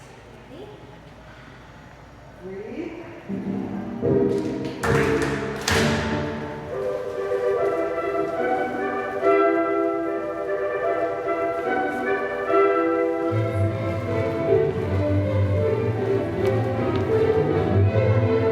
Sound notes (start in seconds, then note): 3.8 bright orchestral music; 4.3 girls clap